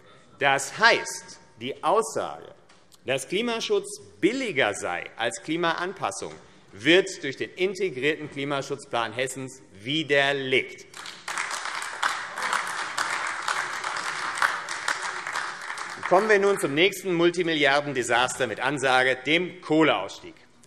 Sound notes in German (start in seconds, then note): 10.9 Beifall AfD